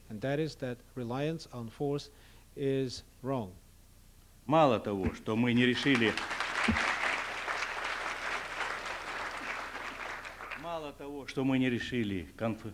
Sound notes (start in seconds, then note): 4.5 non-english speech; 5.6 applause; 9.7 non-english speech